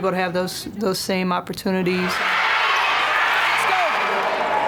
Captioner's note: cheering